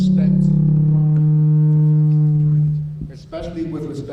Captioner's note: low hum